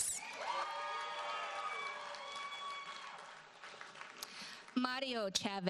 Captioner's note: audience cheers and applauds